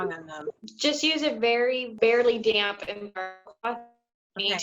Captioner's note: voice glitches